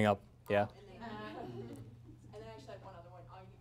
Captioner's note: laughter